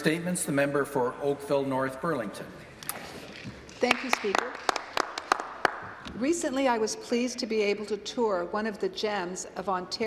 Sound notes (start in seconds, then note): 3.8 some applause